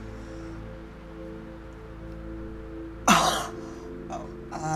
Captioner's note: gasping